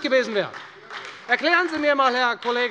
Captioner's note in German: Beifall bei der FDP und der SPD